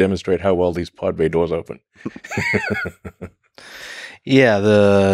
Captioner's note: laughs